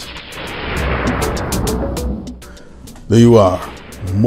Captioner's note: thunder crashing